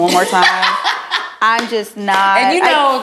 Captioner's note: laughing